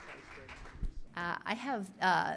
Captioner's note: applause